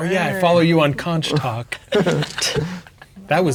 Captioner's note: players laughing